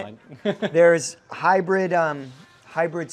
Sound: laughing

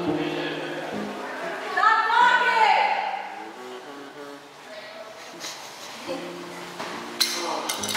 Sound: mild Laughter

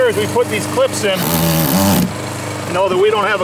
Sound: man drilling

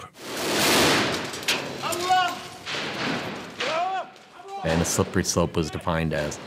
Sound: gunfire

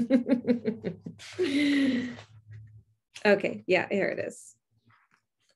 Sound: laughs

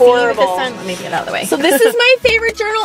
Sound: laughs

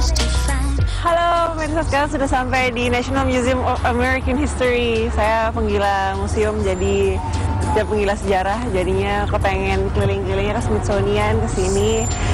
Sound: non-english speech

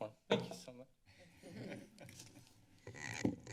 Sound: giggles

